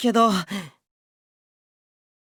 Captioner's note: silence